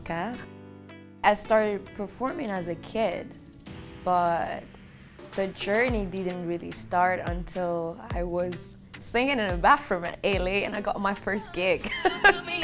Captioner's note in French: Rire